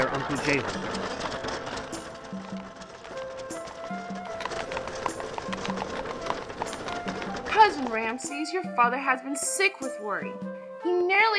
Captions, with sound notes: about their uncle Jehu. (soft music) (hooves clopping) - Cousin Ramses, your father has been sick with worry.